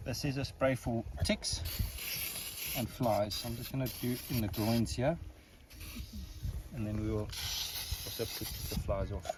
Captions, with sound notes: This is a spray for ticks (spray fizzles) and flies. I'm just gonna do in the groins here. And then we will... It'll keep the flies off.